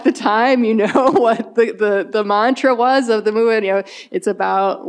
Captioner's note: chuckles